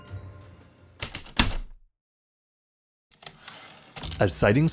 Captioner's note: heavy typewriter keystrokes, return slide